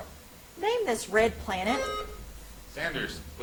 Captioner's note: buzzer chimes